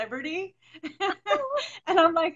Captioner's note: laughs